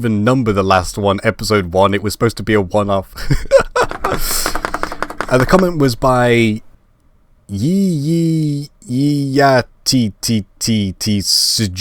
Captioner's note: laugh